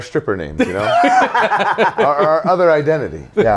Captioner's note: laughing